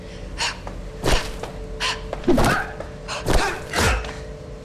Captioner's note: fighters grunting